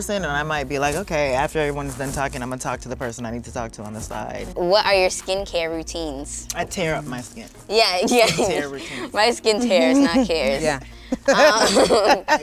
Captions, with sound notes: or I might be like, "Okay, after everyone's done talking, "I'ma talk to the person I need to talk to on the side." - What are your skin care routines? - I tear up my skin. - Yeah, exactly! (group laughs) - It's a tear routine. - My skin tears, not cares. - Yeah. (group laughs)